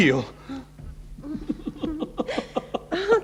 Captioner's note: laughs